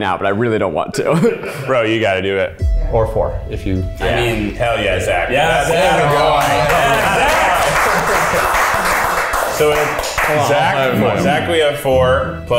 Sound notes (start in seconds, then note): 5.2 all cheering